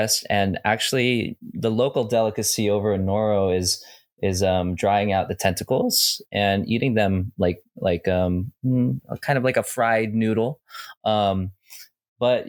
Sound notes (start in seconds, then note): none